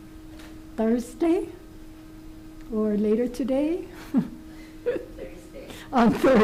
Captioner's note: laughs